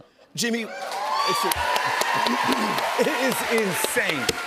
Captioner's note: cheers and applause